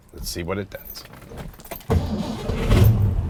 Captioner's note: engine starts